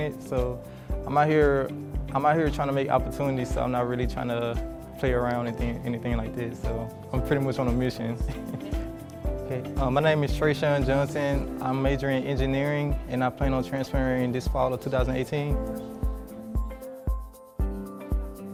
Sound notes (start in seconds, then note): 8.2 laughs; 15.7 upbeat music